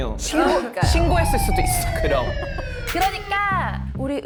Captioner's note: siren sound effect that’s been recurring today